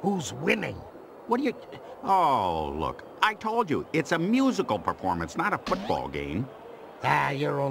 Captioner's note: stutters